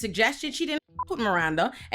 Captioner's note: beep